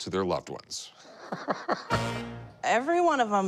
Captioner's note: laughs